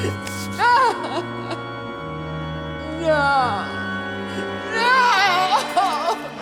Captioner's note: sobs